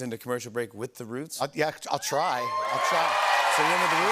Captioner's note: cheers and applause